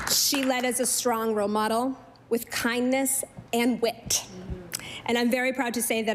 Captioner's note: applause